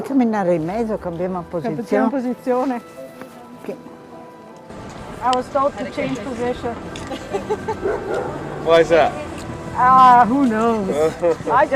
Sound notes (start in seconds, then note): 0.2 speaking in foreign language